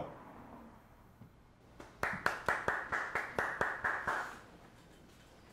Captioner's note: applause